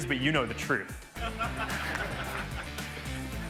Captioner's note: audience laugh; upbeat music continues